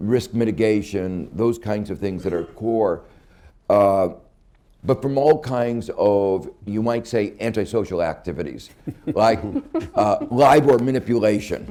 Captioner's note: laughter